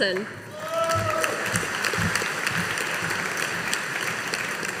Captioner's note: audience applauding